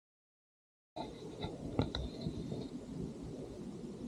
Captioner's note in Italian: Suono lieve di cascate in distanza